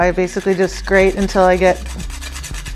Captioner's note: nutmeg grates